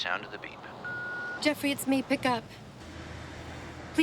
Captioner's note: phone beeps